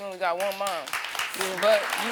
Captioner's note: audience applauding